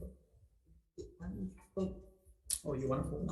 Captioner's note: faintly speaking